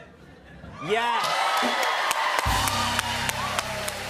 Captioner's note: cheers and applause